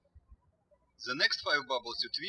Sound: birds chirping

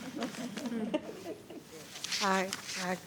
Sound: attendees laughing

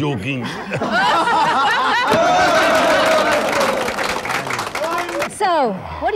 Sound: everyone laughs

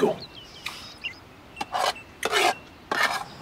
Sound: cutlery scrapes

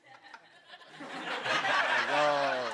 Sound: laughter

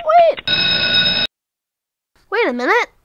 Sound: ticking clock; alarm bell

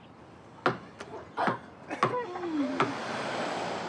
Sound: chuckles

